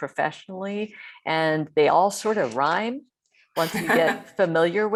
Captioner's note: laughing